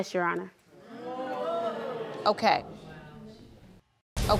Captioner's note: crowd jeers